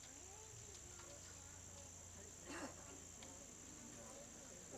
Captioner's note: congregants chattering